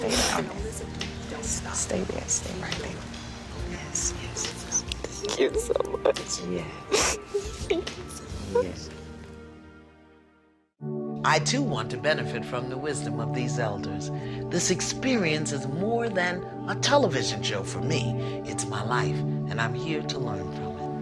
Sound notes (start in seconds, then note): 0.0 sniffles; 4.9 voice breaking